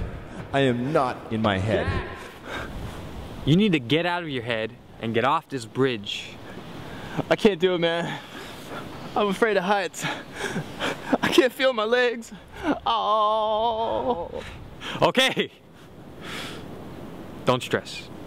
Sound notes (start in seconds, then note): 12.8 moan